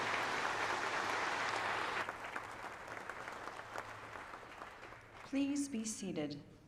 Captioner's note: applause